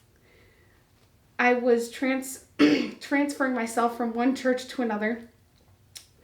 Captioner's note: clear throat